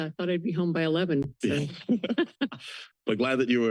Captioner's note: laughter